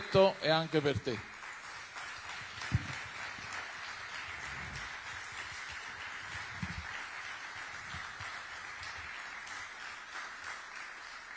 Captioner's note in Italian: Applauso